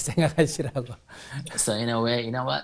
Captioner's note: laughs